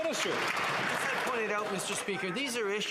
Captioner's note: applause